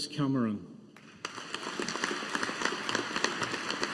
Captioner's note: audience applauding